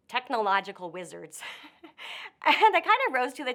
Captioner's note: chuckles